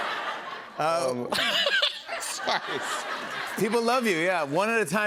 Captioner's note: laughs